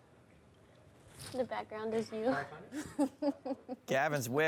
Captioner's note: laughs